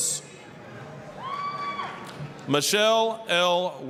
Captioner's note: applause, cheering